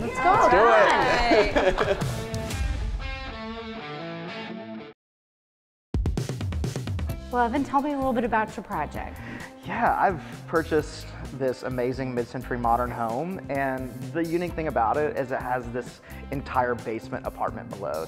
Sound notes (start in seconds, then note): 2.6 laughs; 6.1 upbeat music